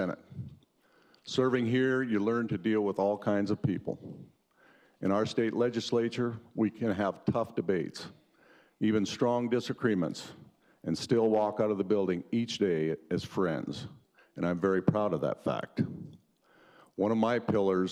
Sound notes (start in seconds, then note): none